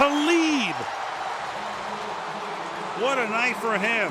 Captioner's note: cheering